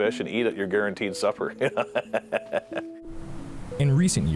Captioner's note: laughs